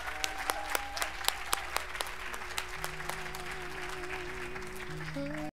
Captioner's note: cheers and applause